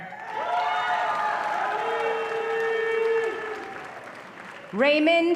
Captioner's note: audience cheering and applause